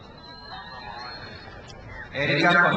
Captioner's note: crowd cheers